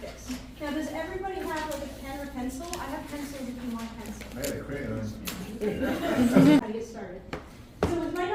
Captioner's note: laughter